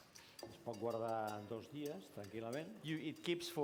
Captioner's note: non-english speech